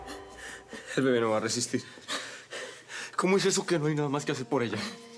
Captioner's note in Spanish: Sollozos